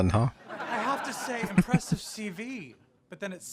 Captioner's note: chuckling